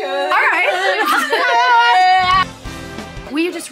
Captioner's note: group laughing